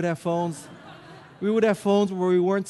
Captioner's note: audience laughing